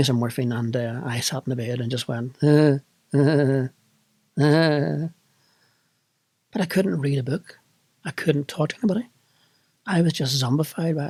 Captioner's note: giggles